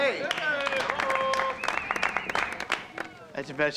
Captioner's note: cheering and applause